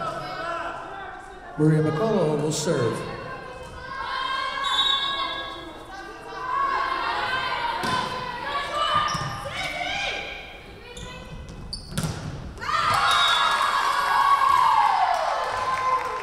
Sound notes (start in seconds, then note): 4.5 whistle blowing; 13.0 whistle blowing